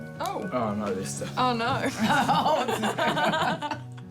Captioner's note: laughter